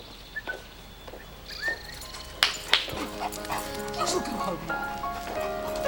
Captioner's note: Christopher whistles